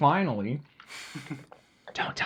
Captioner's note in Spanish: Riendo entre dientes